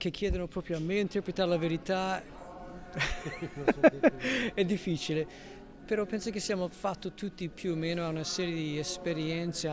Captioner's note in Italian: risata